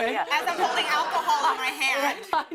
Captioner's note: laughter